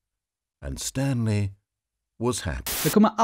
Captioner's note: white noise